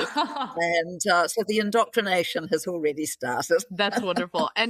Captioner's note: laughing